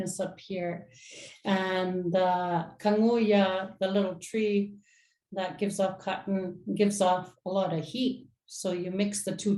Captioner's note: inuktitut